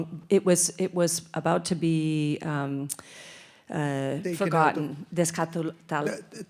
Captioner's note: speaks in Spanish